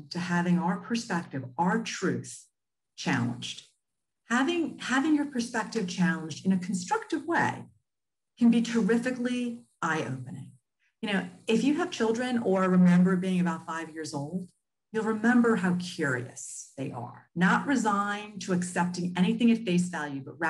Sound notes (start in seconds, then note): none